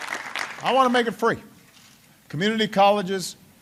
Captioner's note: applause